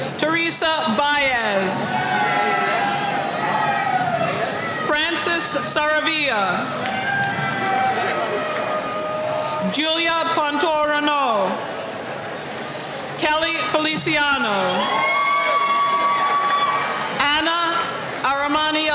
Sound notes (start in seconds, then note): 1.6 cheering; 14.1 cheering